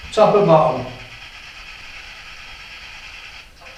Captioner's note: white noise